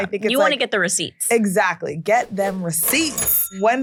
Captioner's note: cash register dings